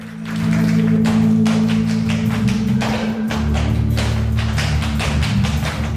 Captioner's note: audience applauds; intense music; dancer's feet tapping